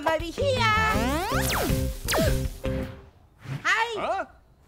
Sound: laser whirs

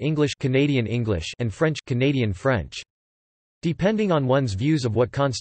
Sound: canadian French

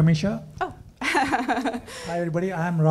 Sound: laughing

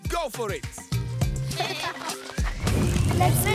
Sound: laughing

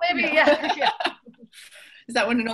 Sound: laughs

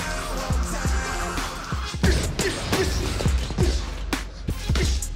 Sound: punching sounds

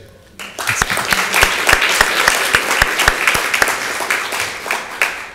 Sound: audience applauds

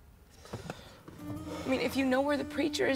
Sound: exhales

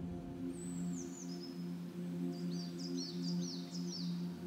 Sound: birds chirping

